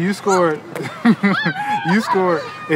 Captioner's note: laughs